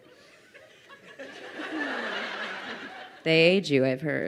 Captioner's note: crowd laughing